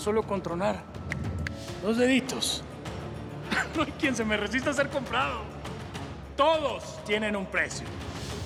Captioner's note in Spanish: truena dedos